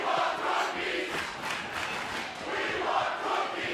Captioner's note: fans chanting